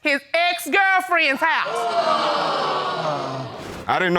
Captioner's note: audience exclaims